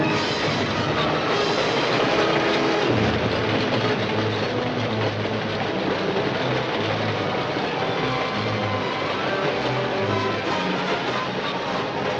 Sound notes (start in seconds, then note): 5.4 train clacking